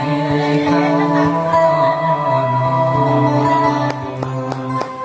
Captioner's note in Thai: ปรบมือ